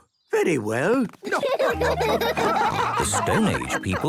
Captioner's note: laughing